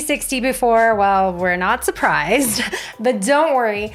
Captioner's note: laughing